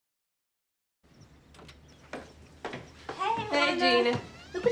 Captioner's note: birds chirping